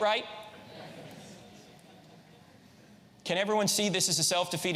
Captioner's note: audience laughs